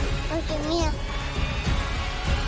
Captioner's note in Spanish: Santita balbucea